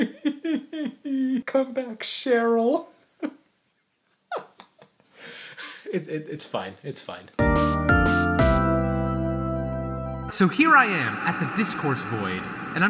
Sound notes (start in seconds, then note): 2.7 fake cries; 7.4 upbeat music plays